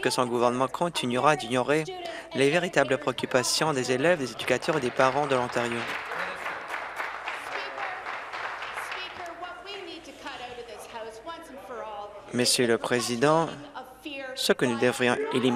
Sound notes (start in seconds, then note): 7.3 applause